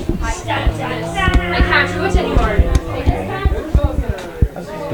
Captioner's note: people chattering